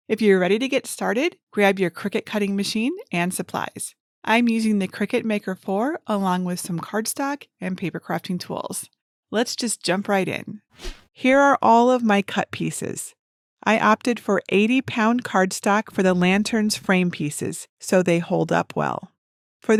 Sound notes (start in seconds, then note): 10.8 air whooshes